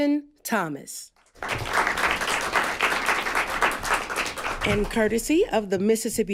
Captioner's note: applause